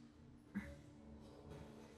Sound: she grunts

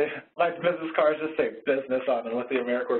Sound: voiceover

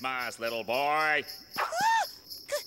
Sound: gasps

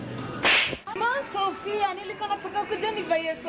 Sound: slap

